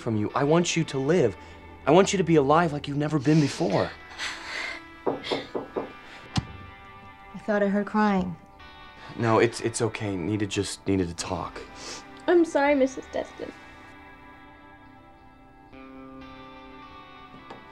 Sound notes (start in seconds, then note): 5.0 soft knocking; 14.3 dramatic music